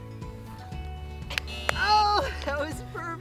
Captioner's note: clapping; buzzer